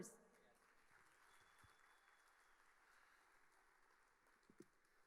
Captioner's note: audience applauding